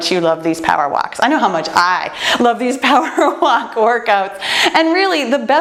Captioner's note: laughs